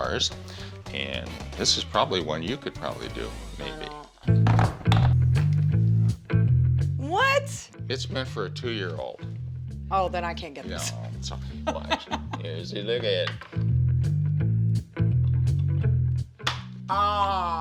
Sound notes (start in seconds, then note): 11.5 laughing